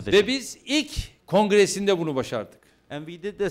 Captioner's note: non-english speech